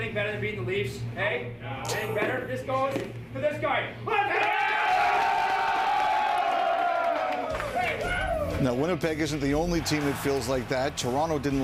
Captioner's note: cheering